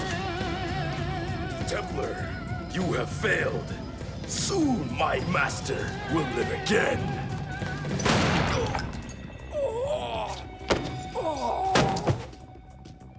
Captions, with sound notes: - Templar, you have failed. Soon my master will live again. (gun fires) (groans)